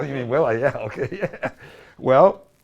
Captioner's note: laughs